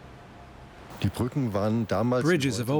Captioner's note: speaking German